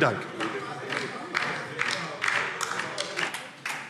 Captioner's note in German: Beifall DIE LINKE